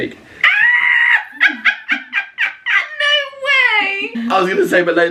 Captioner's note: laughing